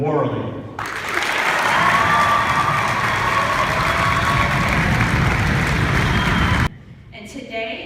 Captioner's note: clapping and cheering